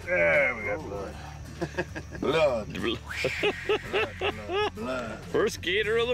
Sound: laugh

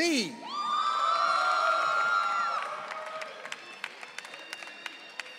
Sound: audience cheering

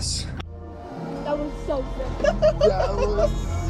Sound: laughing

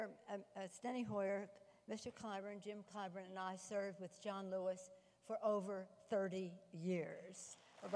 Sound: applause

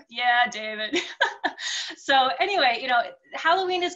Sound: laughing

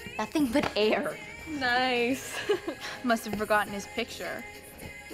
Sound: laughs

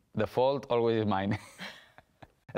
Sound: laugh

